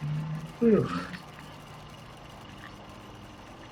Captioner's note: yawns